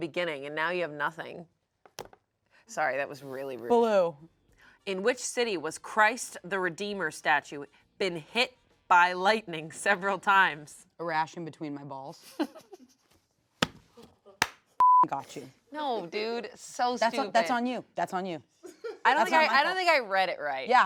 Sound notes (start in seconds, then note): 12.2 laughs; 14.8 beep